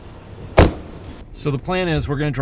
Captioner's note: slams car door